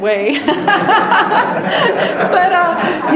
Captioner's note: people laughing